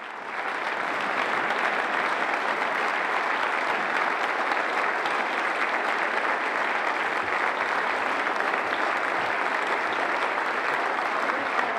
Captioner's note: applause